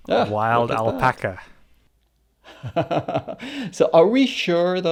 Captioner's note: laughs